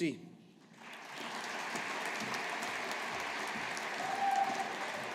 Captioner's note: audience applauding